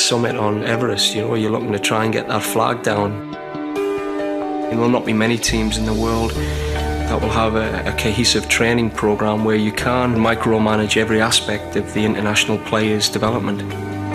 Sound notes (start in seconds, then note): 4.3 man's voice